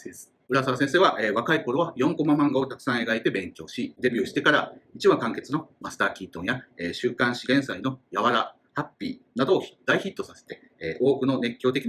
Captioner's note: speaking Japanese